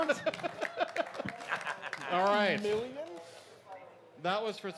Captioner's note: applause